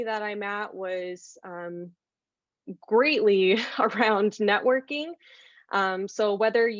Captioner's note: laughter